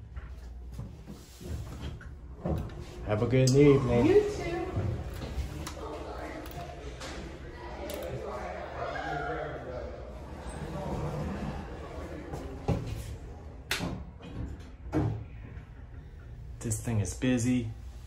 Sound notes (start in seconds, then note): 5.2 door Opens